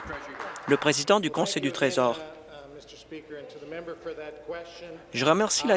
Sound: applause

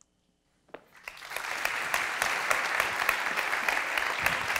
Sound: applause

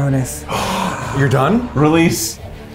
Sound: gasps

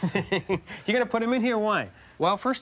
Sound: laughing

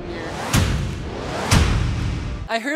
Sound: air whooshing; text crashing

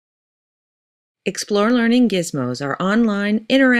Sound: voiceover

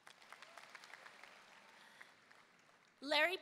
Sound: audience applauding

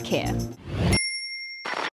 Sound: ding

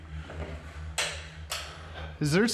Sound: switch clicking

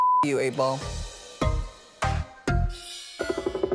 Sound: beep; slow electronic music

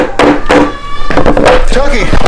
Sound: screams

